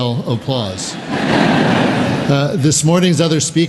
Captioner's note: laughter